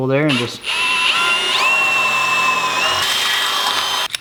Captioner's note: drilling